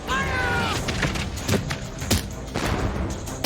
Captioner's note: gunshots